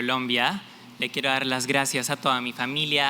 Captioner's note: non-english